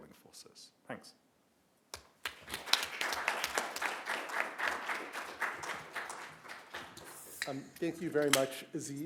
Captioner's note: applause